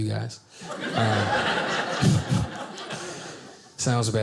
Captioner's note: audience laughing